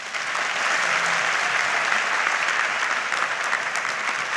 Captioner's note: audience applauds